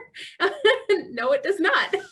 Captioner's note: laughing